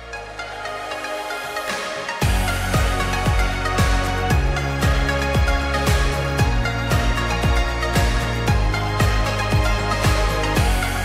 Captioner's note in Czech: Potlesk